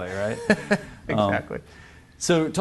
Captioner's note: laughs